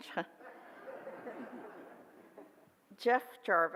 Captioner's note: audience laughs